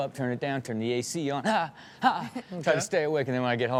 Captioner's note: yelps